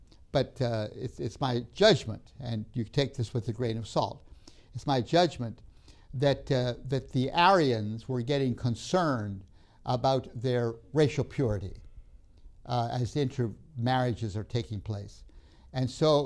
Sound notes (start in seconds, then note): none